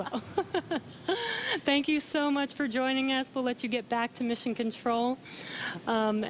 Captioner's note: laughter